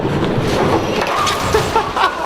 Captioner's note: bowling pins falling; laughing